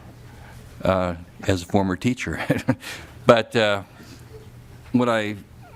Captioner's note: laughter